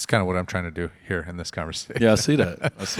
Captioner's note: laughs